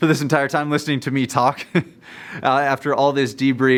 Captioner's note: laughs